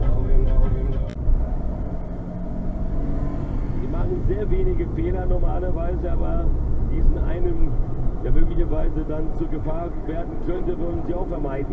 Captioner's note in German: Hörbare Fußballspiel-Übertragung